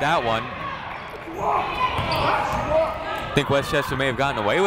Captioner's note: people shouting in the crowd